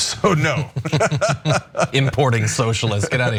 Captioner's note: laugh